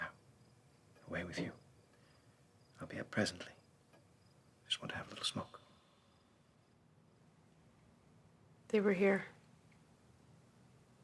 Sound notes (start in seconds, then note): none